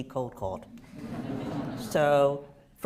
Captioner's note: laughter